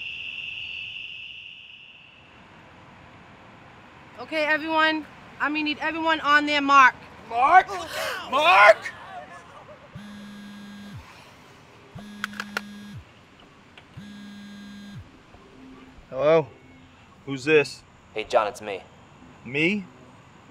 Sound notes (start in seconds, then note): 10.8 people yelling; 12.0 phone rings